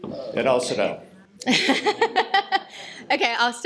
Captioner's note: laughter